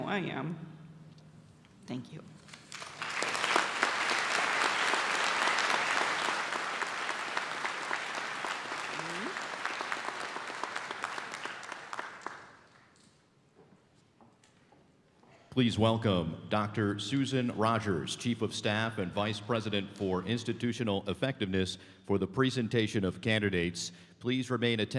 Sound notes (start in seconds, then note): 7.9 applause; 9.9 cheers